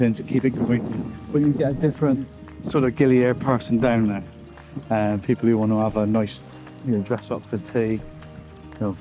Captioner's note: water splashing